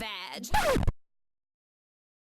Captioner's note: record scratch